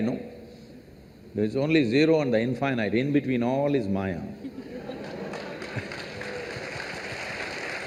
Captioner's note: laughter/Applause